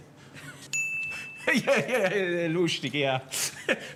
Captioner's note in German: Lachend